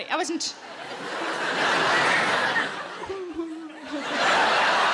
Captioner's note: audience laughing